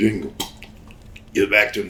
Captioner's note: Sabu spits